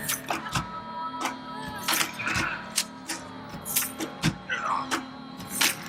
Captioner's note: groans